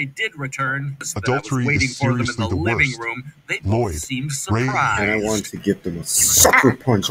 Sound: growls

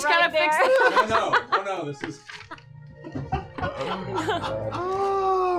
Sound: laughs

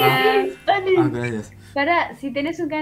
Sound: Spanish

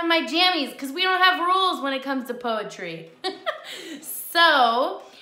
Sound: laughs

